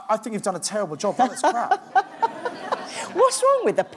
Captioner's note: laughs